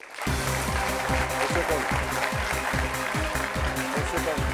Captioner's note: applause